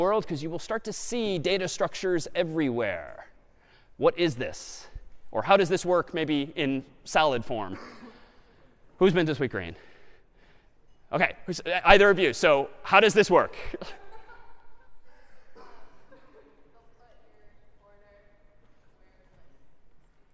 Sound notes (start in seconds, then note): 13.6 laughter